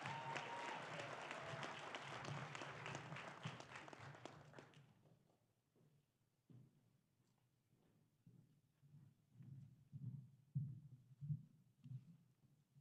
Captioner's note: applause